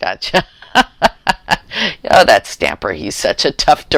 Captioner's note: laughter